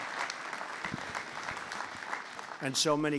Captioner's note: applause